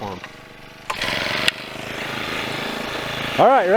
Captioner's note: drills starting